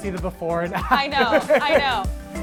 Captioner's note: laughs